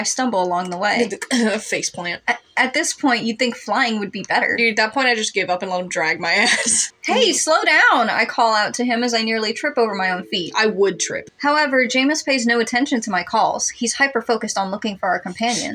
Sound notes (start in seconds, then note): 1.1 stumbling Noise; 6.4 laugh